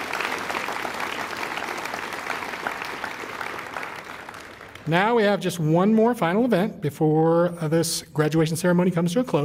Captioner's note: applause